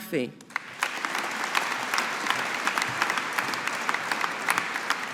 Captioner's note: audience applauding